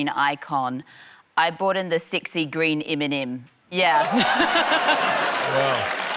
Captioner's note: laughter